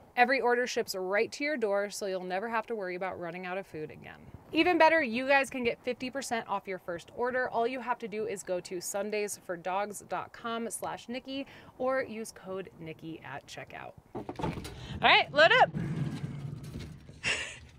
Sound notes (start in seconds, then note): 14.1 door thuds; 17.2 laughs